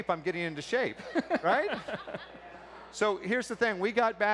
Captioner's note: laughter